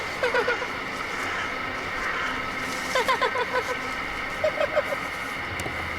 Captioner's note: forced laughter, crow cawing